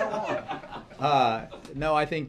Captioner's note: laughter